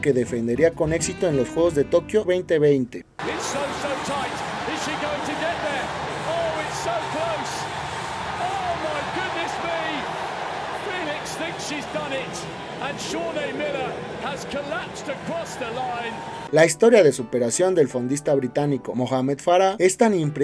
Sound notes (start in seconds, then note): 6.9 applause